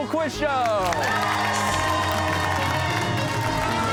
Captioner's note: cheers and applause